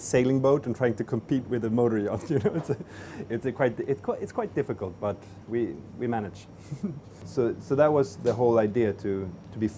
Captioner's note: laughing